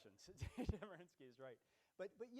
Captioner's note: laughs